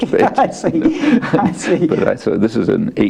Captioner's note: laughs